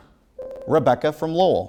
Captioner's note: ringing